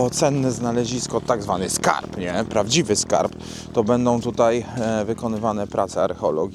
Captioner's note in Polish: parsknięcie